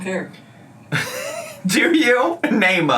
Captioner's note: laughs